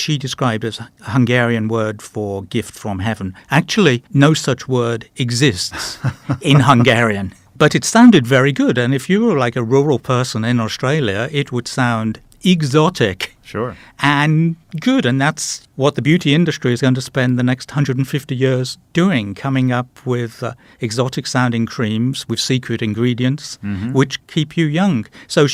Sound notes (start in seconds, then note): 5.7 laughing